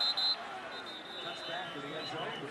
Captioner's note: whistle